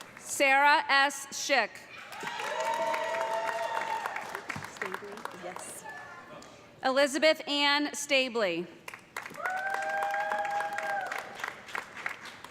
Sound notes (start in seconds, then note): 1.9 cheers and applause; 9.2 cheers and applause